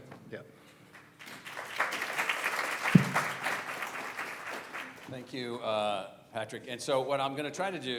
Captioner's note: applause